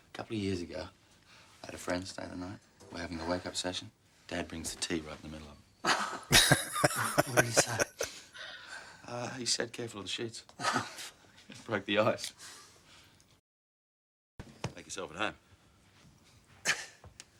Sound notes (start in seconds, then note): 5.9 laughing